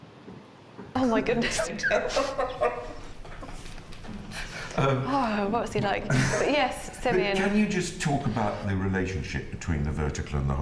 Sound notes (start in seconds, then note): 1.4 laugh